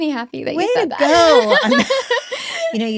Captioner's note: laughs